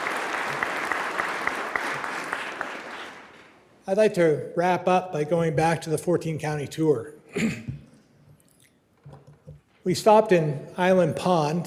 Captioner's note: applause